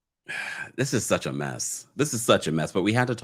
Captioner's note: sighs